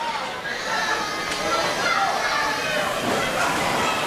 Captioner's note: audience cheers